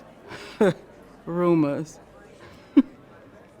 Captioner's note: scoffs